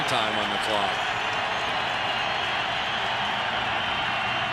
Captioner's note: cheering